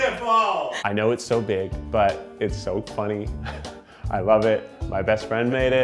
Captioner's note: laughs; laughs